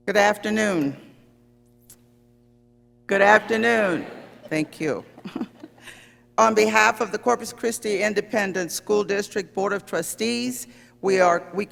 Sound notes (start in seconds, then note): 3.3 chuckles